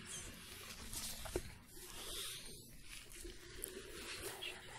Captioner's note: glove sounds, stroking